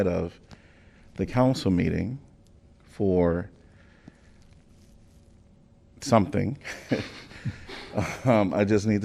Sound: laughter

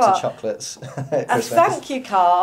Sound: laughs

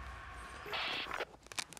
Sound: radio bleep

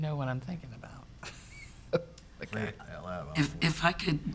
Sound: chuckles

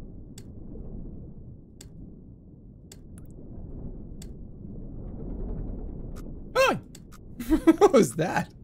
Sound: giggles

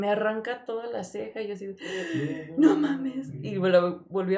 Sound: gasp

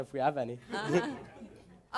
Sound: chuckling

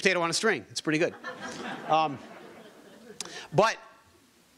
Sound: audience laughing

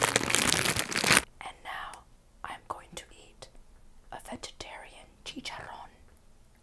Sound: whispering

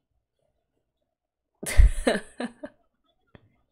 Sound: laughs

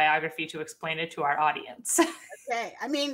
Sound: chuckles

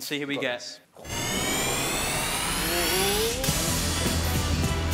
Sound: whooshing; upbeat music

